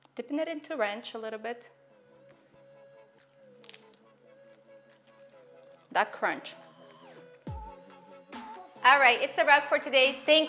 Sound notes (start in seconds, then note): 2.4 crunching; 2.4 light music